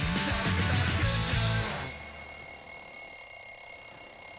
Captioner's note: alarm bell rings